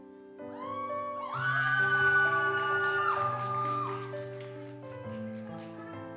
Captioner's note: audience cheers and applauds